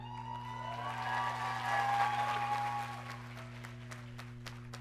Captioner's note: audience cheering